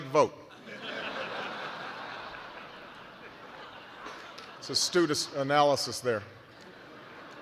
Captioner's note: laughter